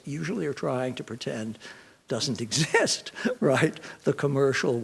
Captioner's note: chuckles